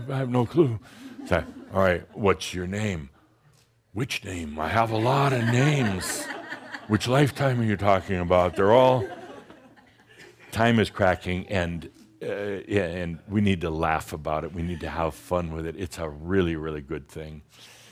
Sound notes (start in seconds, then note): 4.8 more chuckles